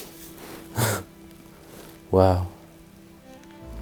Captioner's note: chuckles